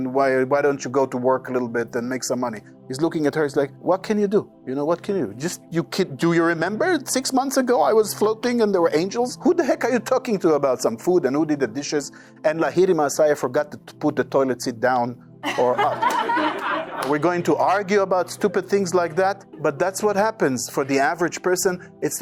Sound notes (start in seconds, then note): 15.4 audience laughing